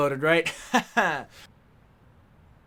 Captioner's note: laughs